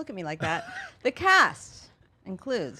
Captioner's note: laughing